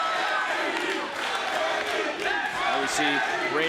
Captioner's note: crowd chants